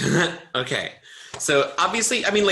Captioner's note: giggles